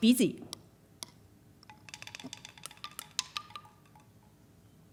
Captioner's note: wooden chimes